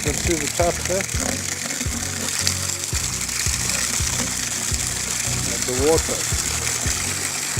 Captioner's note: water sounds